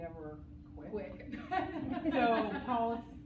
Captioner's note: laughs